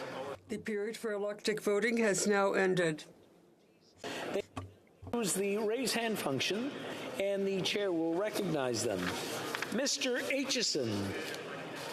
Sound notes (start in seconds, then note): 4.4 speaking French